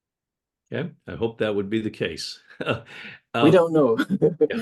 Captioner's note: chuckles